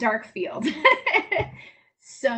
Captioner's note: laughs